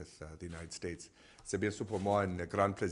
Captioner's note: in French